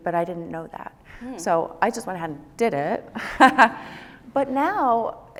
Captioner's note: laughs